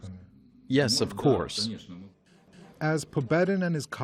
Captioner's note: through translator